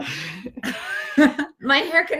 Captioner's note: laughter